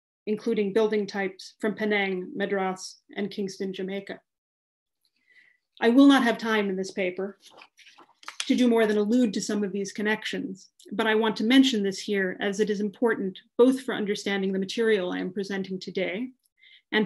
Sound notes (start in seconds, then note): 7.4 paper shuffling